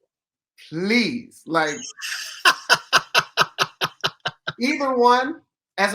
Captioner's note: laughs